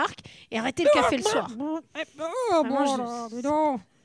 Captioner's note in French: gloussements